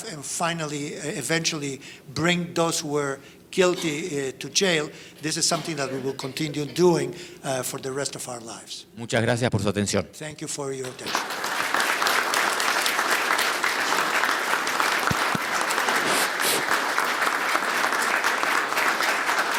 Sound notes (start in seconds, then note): 9.3 speaking in foreign language; 10.8 audience applauding